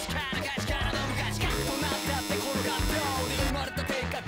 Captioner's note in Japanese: 開演ブザーの音